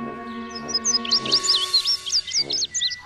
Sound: birds chirpin

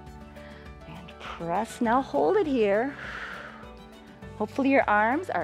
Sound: exhales

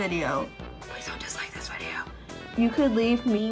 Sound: whispers

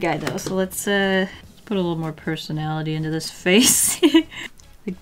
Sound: laughs

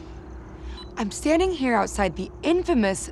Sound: rec beep

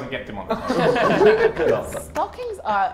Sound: Sidemen laugh

